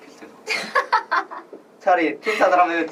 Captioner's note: laughs